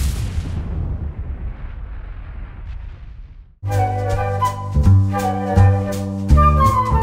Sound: whooshing sounds

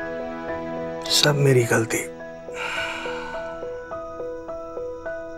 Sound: sighs

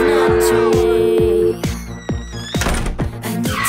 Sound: dial tone; door closing sound effect; car tires screech

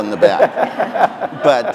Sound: audience laughing

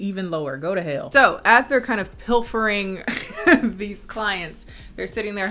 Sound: laughs

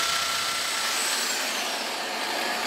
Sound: machine noise

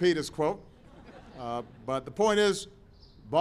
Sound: laughter

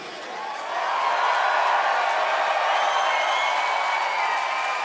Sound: audience applauds and cheers

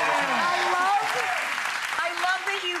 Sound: audience applauds

